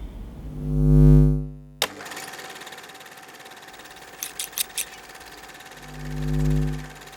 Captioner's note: static